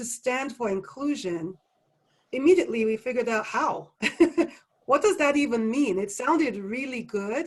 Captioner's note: laugh